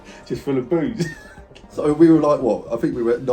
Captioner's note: laughs